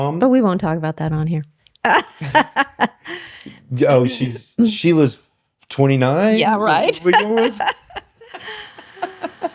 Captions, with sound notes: But we won't talk about that on here. (laughing) Oh, she was 29? Yeah, right. (laughing)